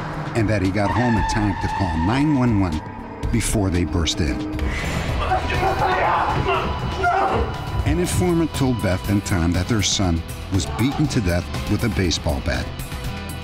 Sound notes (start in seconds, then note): 5.0 shouting